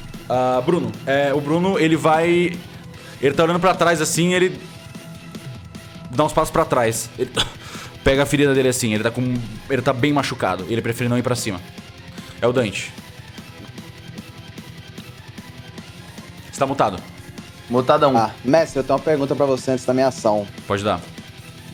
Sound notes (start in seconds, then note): 7.4 grunt